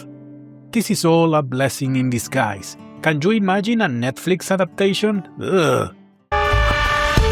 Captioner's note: disgust sounds